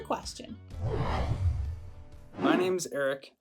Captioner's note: logo whooshing